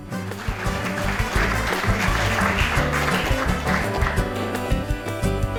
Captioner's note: upbeat music; applause; closing music